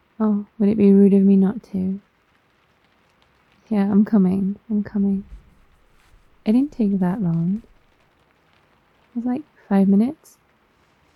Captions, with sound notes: oh, would it be rude of me not to? yeah I'm coming I'm coming *shuffly steps* I didn't take that long it was like five minutes